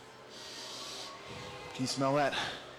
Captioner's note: inhales